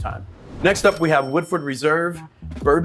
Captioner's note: cash register dings